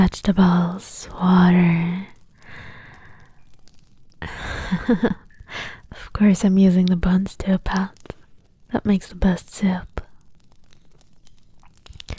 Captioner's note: laughs